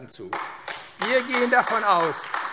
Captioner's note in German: Beifall AfD